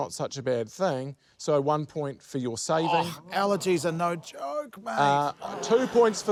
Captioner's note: laughter